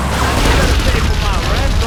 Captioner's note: sirens